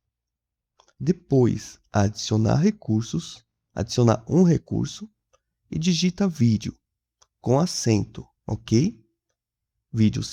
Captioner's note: with an accent